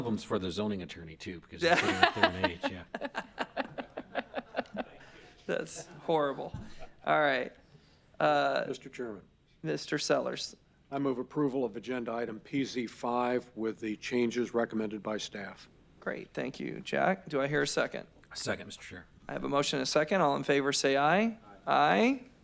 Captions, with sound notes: >> GOLF CART SPACES? IS THIS IN SUN CITY? I REMEMBER WORKING ON A LOT ABOUT THAT. [ LAUGHTER ] HORRIBLE. >> MR. CHAIRMAN? >> MR. SELLERS. >> I MOVED APPROVAL OF THE AGENDA PZ- 5 WITH THE CHANGES RECOMMENDED BY STAFF. >> THANK YOU, DO I HAVE A